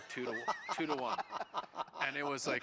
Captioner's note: laughing